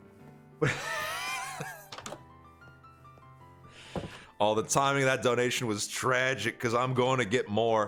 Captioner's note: laughs